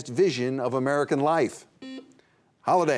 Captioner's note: buzzer buzzing